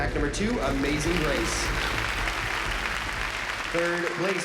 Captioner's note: applause